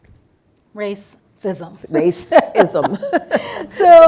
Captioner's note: laughs